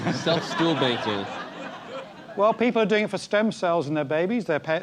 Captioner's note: laugh